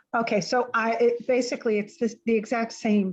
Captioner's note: woman Speaking